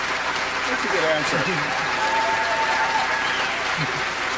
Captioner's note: cheering